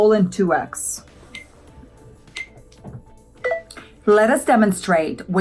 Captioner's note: countdown beeps